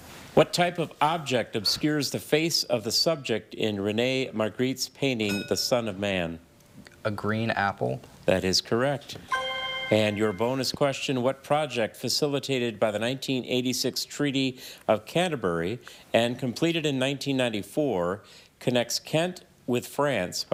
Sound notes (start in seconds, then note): 5.3 bell dings; 9.2 chime resonating